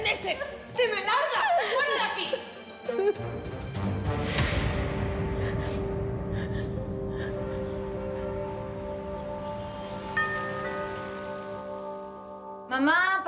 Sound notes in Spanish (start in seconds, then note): 2.0 llanto de lucha; 5.4 sollozos